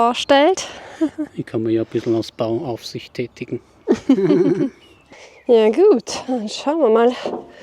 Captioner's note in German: gelächter